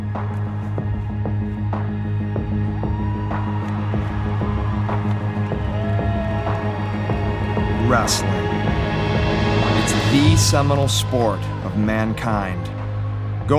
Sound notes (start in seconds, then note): 3.4 audience cheering